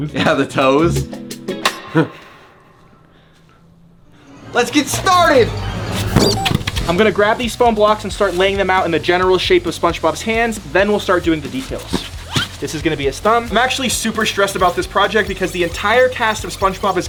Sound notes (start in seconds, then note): 0.0 upbeat amorous music; 1.8 chuckles nervously; 6.0 toy squeaking; 11.6 foam block wheezing